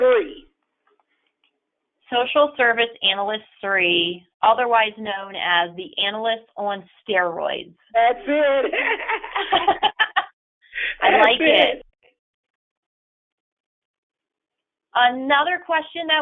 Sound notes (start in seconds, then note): 8.2 laughter